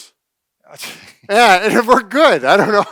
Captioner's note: laughing